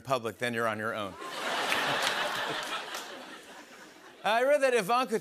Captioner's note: laughter